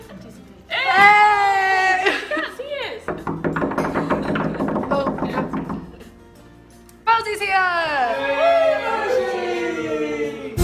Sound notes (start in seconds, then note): 3.0 knocking on windows